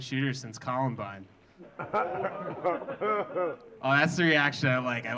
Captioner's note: audience gasping; audience laughing